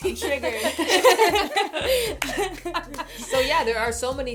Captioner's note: laughter